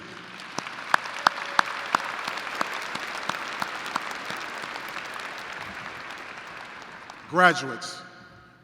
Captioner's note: applause